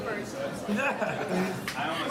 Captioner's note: laughs